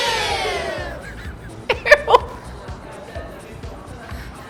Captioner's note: laughs